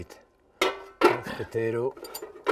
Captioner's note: pan clinking